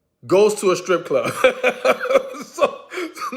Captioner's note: laughs